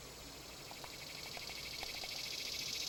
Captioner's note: summer day insects